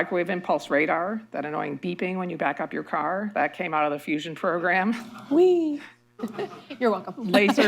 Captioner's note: laughter